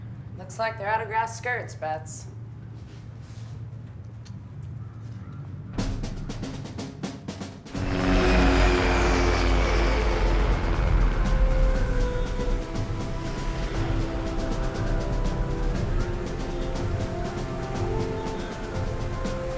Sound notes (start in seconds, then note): 5.8 intense drum music; 8.1 plane buzzes